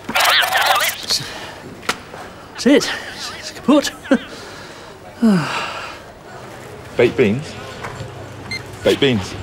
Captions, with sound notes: That's it! It's kaput! (sighs) - Baked beans... (scanner beeps) Baked beans.